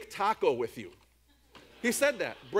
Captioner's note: audience laughs